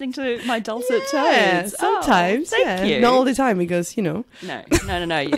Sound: laughs

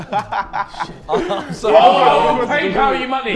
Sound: Sidemen laughing

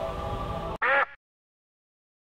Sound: le silence; duck sound

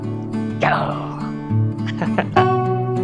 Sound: lion roar in Japanese

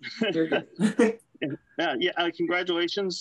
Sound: laugh

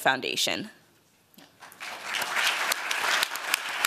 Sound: applause

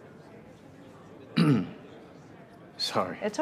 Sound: clears throat

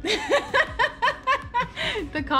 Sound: laughs

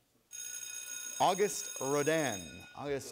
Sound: buzzer; bell rings

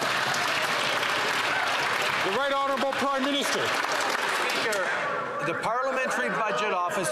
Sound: some Applause

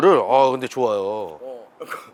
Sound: exclamation

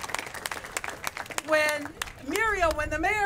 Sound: applause

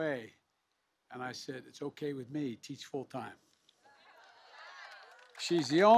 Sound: applause

